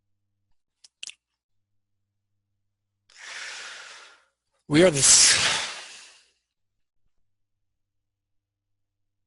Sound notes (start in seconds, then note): 6.8 gasps